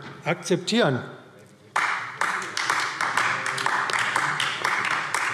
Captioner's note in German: Beifall AfD